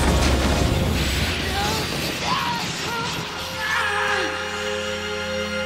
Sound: screaming

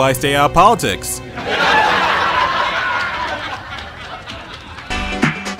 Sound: audience laughs in the background

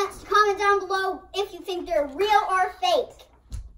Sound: whispering

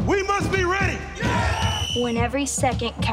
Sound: team cheers; whistle screams

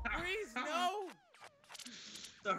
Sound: laugh

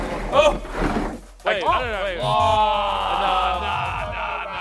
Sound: indistinct groaning

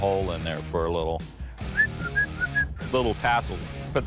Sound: whistles

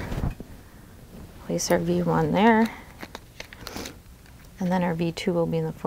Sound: packaging rustles

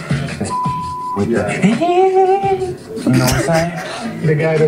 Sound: beep

